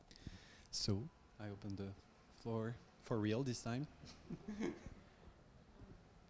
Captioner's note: chuckles